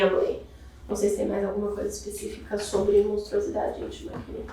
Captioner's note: speaking portuguese